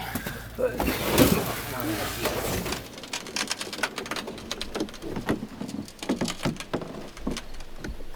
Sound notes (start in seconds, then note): 3.1 creaking door